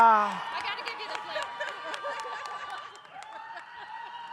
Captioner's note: audience cheers